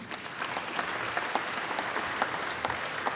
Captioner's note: applause